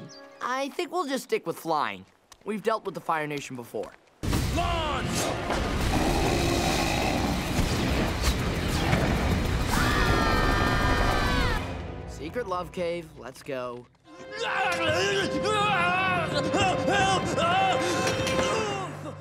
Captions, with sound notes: I think we'll just stick with flying. We've dealt with the Fire Nation before. Launch! [growling] [screaming] Secret love cave, let's go. [screaming]